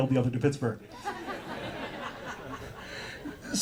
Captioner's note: audience laughter